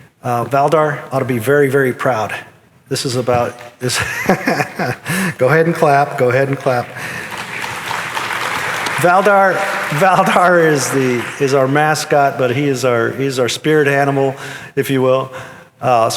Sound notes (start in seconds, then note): 3.9 chuckles; 6.2 audience applauding